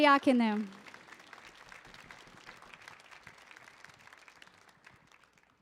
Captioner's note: audience applauding